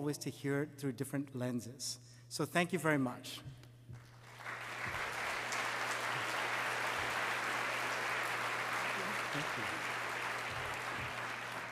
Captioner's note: applause